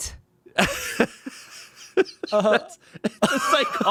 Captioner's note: Shayne laughs